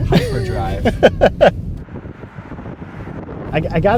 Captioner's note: laughs